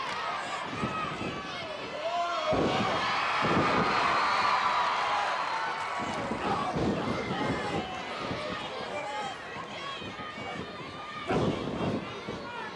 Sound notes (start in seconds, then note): 2.3 audience cheering; 2.3 floor banging